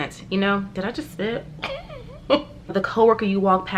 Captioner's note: laughs